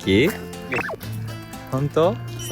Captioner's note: laughs